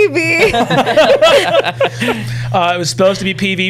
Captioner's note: laughter